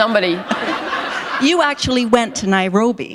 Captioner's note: laughter